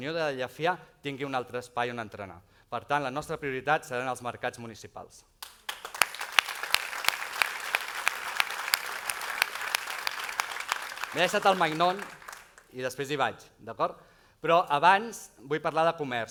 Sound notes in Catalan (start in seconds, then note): 6.4 aplaudiments